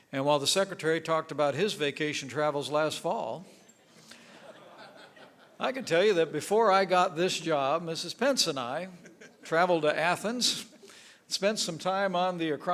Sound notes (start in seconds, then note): 4.1 laughter